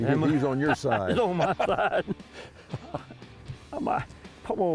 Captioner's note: laughs